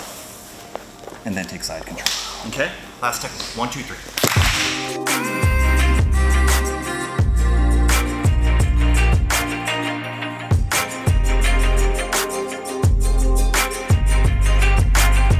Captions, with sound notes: And then take side control. Okay, last technique. One, two, three. (all clap) (dramatic music)